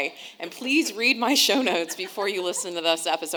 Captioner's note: audience laughing